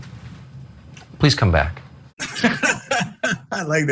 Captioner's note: laugh